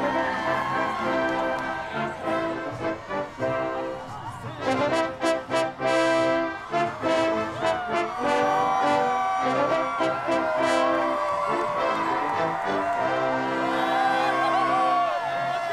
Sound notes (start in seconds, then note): 7.5 cheering